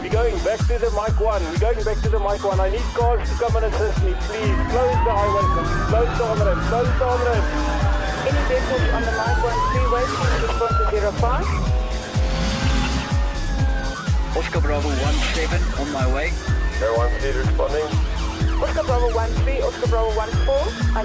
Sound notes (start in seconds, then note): 0.0 police sirens; 11.6 car revs loudly; 13.4 police sirens